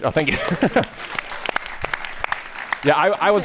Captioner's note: applause